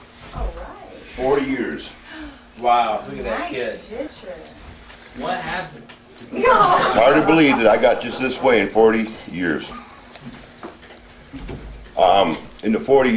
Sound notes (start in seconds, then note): 6.4 audience laughing